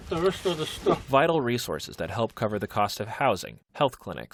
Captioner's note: voice-over